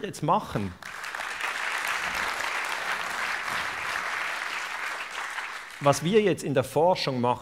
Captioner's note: applause